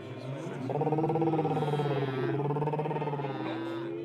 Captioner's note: all making noises